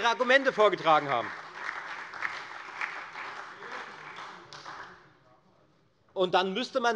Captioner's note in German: Beifall bei der FDP sowie bei Abgeordneten der SPD und der LINKEN